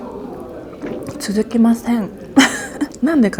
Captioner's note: laughs